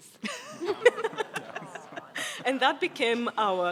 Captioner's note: people laugh